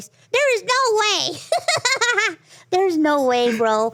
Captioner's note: laughs